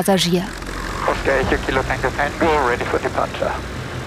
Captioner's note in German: Funksprüche auf Englisch